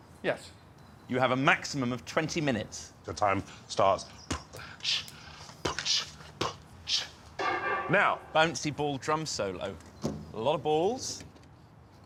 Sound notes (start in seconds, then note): 5.4 beatboxing